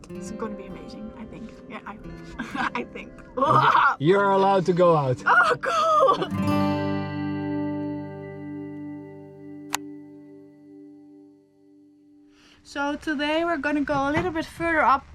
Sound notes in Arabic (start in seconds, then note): 2.1 يضحك; 7.2 موسيقى الجيتار المهدئة